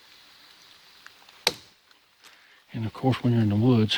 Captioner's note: stick knocks